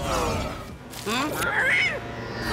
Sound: squawking

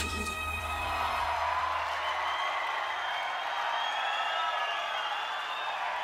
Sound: crowd cheering

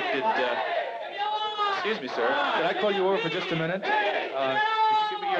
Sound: protesters chant

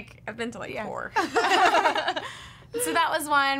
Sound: laughing

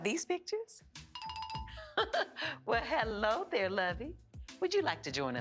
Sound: laughs

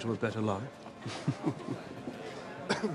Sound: chuckles

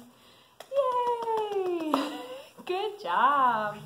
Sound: clapping

